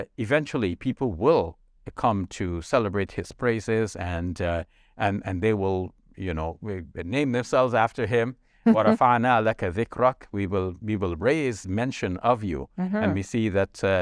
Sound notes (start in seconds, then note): 8.6 speaks in foreign language